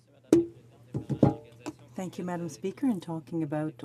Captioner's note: speaking french